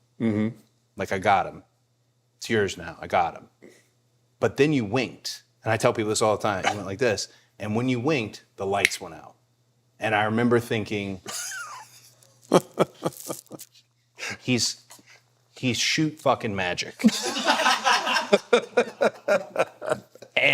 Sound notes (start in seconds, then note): 6.6 The Undertaker chuckles; 12.4 The Undertaker laughing; 17.0 crew laughing